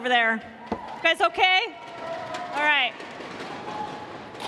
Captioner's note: cheers and applause